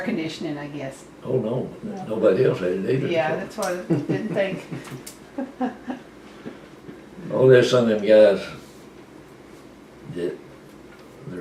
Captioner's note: laughter